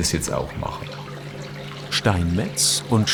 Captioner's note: rippling